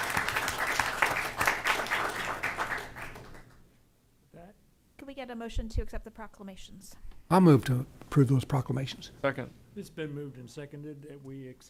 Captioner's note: applause